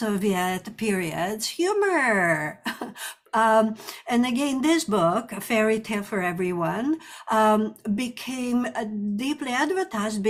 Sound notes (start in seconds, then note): 2.6 chuckles